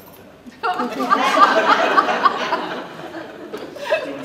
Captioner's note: laughter